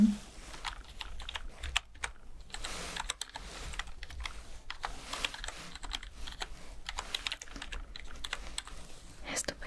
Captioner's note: typing sounds